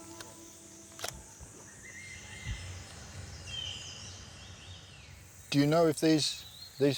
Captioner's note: dreamy music ends; birds singing; shutter clicks